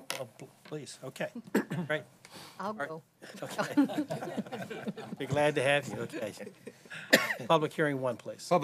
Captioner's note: laughter